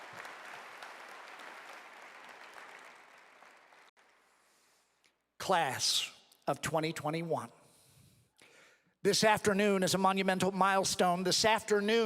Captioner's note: applause